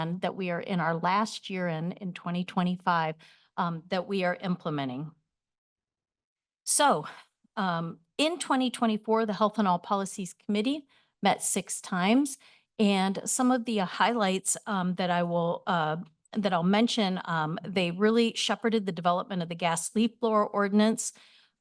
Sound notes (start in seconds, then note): 5.1 pause